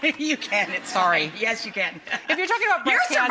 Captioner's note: laughs